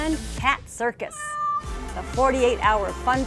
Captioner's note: meows